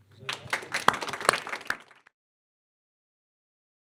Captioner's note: audience clapping